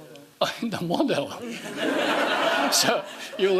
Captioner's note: laughing